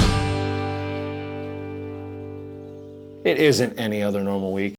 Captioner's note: birds chirping